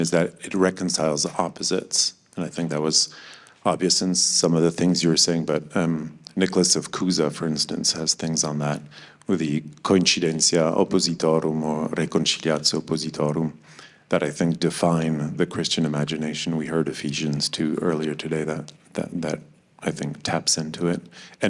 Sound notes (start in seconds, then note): 9.5 speaking in foreign language